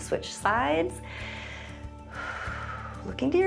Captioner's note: inhales and exhales